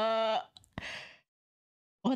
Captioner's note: inhale